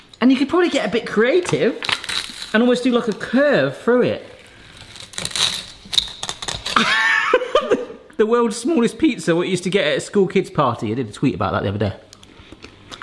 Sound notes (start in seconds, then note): 6.8 laughing excitedly